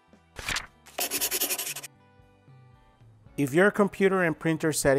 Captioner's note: paper flipping; scribbling